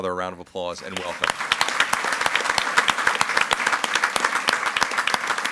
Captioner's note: audience applauds